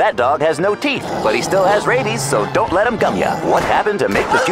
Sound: snarling; gunshots; howls

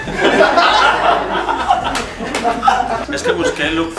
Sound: laughs

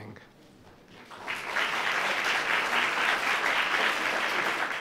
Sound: audience applauding

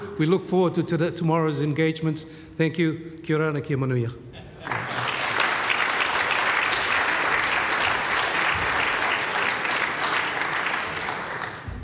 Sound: in foreign language; applause

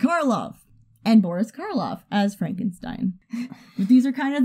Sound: both chuckle

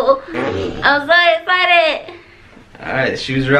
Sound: chuckles

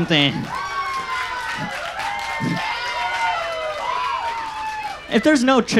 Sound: audience laughs and cheers

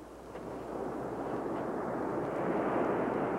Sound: surf roaring

